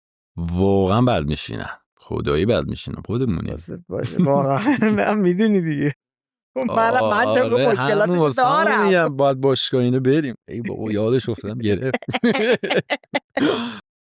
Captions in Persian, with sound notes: واقعاً بد می‌شینم، خدایی بد می‌شینم. خودمونیم.. - واقعاً. می‌دونی دیگه؟ (خنده) خب منم همین مشکلات رو دارم. - واسه همین می‌گم باید باشگاه این‌ها بریم. ای بابا، یادش افتادم گرفت. (خنده)